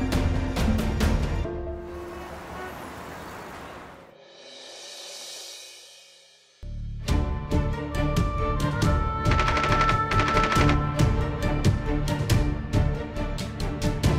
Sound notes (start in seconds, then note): 1.8 traffic noise; 9.4 bullets shooting